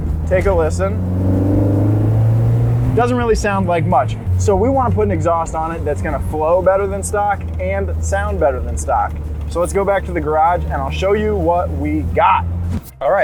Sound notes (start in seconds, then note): 1.3 car engine revving